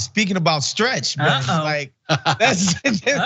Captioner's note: laugh